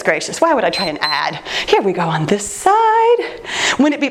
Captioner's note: timer beeps